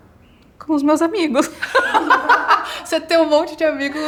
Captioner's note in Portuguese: risos